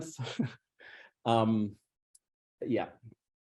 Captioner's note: laughs